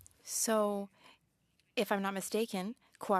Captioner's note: speaking French